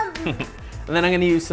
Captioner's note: laughs